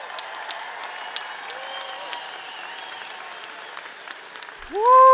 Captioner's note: people cheer; audience applauds